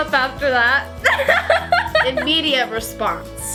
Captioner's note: laughs